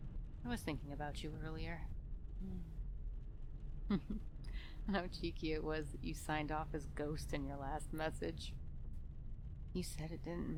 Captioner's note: chuckling